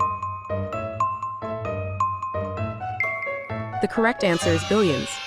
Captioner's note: timer beeping